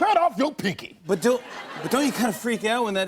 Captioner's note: laughter